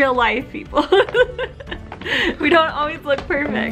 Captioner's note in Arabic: كلاهما يضحك